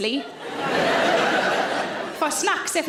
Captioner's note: audience laughing